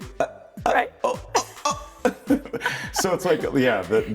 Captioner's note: gagging